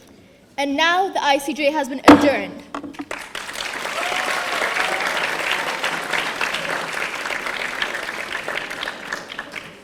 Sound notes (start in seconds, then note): 2.0 gavel banging; 3.0 audience applauding